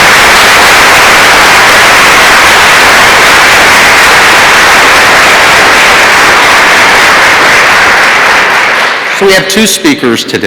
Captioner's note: applause